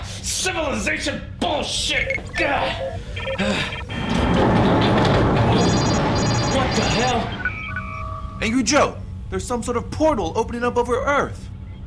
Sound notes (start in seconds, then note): 1.7 computer beeps; 3.9 ship violently shakes; 5.5 computer alarm rings; 7.3 computer beeps